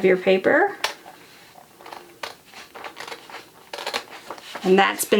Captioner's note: scissors cutting